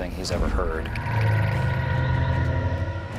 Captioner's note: growling